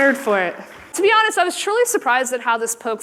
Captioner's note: applause